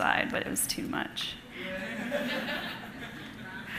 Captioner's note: laughter